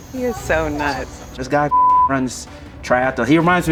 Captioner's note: beep